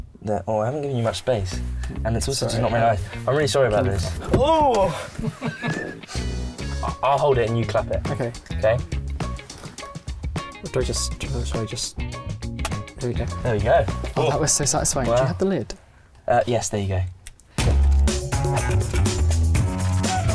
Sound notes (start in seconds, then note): 13.0 slate clicking; 17.6 upbeat music